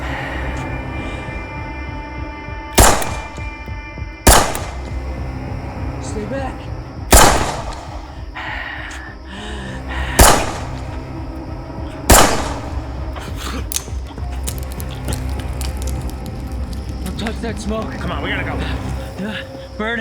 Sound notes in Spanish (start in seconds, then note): 0.2 música de suspenso; 2.7 disparos; 7.3 disparos; 13.2 Isaac se asfixia